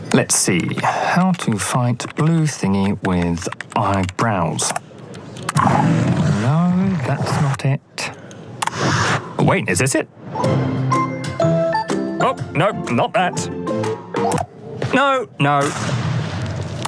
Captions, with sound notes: Let's see, "How to fight blue thingy with eyebrows." [Growling] No, that's not it. Wait, is this it? [Whimsical music] Oh, no. Not that. No, no.